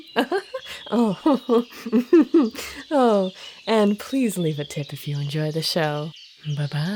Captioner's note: laughing